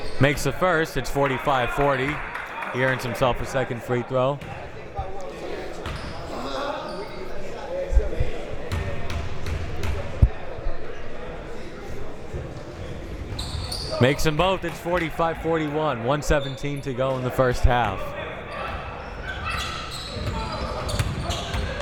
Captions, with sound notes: Makes the first, it's 45-40, he earns himself the second free throw. (ball pounding) Makes them both, it's 45-41, 1:17 to go in the first half.